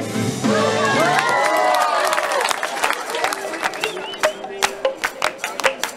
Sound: cheering and applause

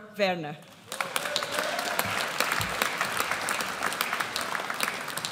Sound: audience applauds

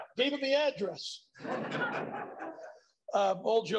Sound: laughter

